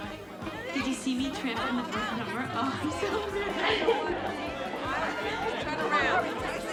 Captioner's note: people chattering indistinctly